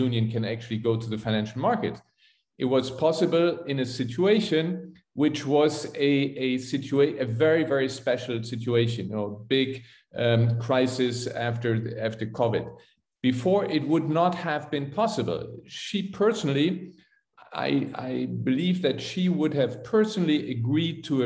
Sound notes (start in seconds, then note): none